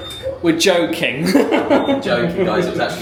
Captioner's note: laughs